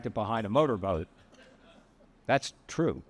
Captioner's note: attendees laughing